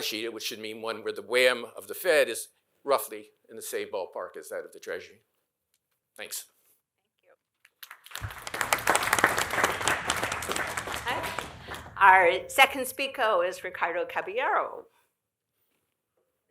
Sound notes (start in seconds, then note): 7.7 applause